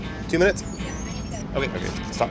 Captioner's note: voiceover